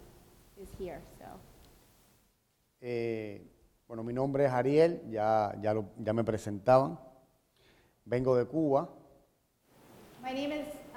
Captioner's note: speaking in Spanish